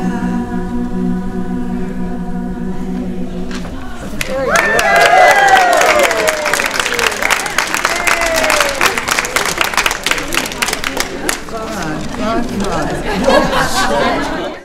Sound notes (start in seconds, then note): 4.2 applause and cheering